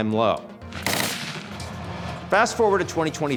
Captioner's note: gunshot echoing